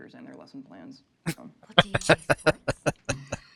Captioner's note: laughing